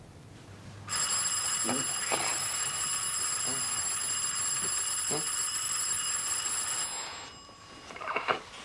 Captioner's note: doorbell rings